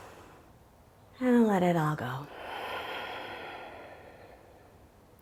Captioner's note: inhales; exhales